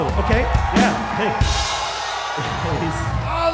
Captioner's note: crowd goes deaf, screaming so loud